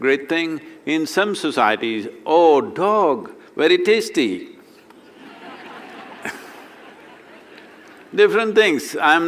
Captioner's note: laughter